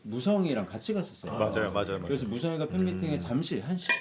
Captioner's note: none